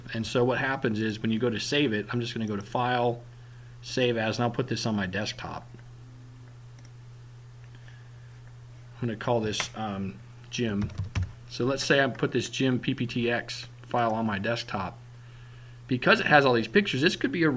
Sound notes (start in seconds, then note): 10.8 typing